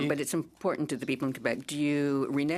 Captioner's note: speaking in French